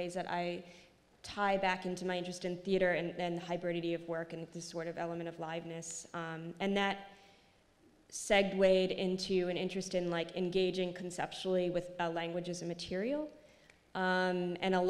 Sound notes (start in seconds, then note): none